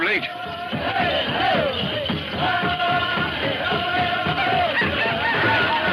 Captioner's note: drum music; men chanting